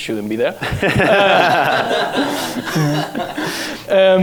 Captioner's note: laughter